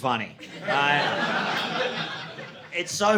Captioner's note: audience laughing